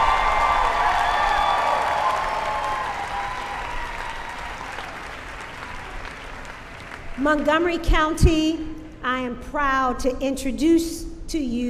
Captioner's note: cheering